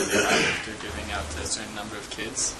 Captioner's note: cough